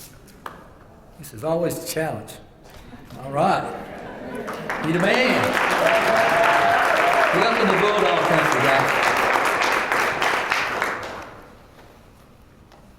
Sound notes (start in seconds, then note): 3.7 laugh; 4.4 applause